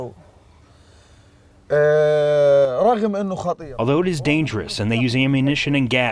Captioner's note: through translator